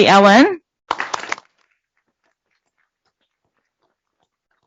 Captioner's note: applause